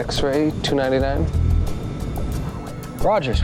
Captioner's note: plane engine roaring